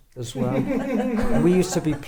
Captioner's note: laughs